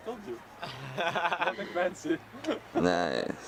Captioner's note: laughs in Hippie